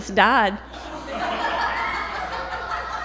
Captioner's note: laughter